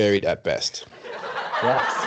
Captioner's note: laughter